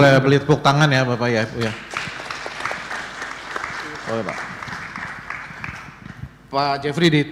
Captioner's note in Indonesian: tepuk tangan